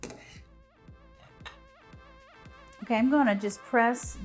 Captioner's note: scoop sliding